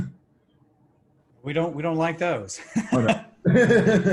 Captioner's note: laughs